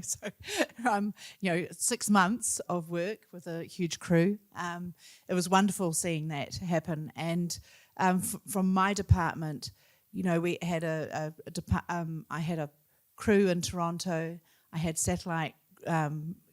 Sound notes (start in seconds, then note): none